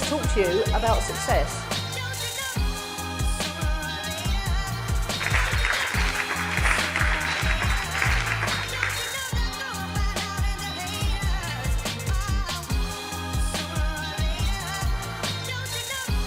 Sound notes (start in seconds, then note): 0.0 positive pop music; 5.1 audience applause